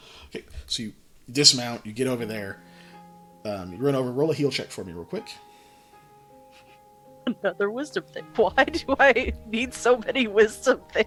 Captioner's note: laughing